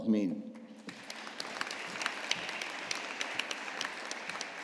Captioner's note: audience applauding